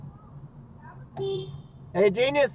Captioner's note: attention Honk